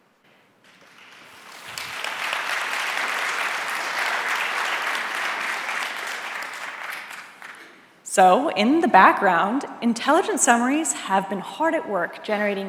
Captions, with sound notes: (audience applauding) So, in the background, Intelligent Summaries have been hard at work